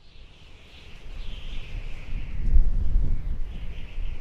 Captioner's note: wind rustling